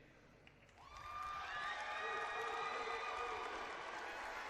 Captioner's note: cheering